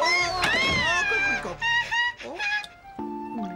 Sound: all yelp

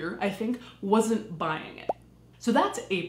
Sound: popping

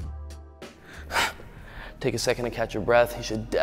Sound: exhales

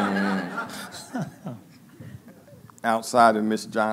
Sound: laughing

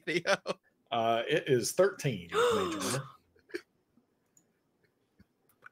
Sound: laughs; gasps

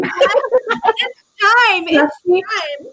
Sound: laughing

